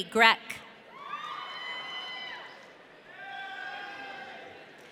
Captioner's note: audience cheering